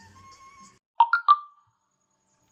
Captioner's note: message alert tone